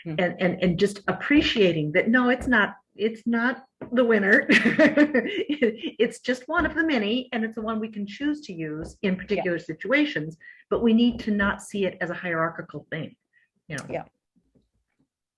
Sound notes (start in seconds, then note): 4.4 laughter